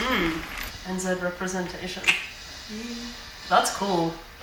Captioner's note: tongue clicks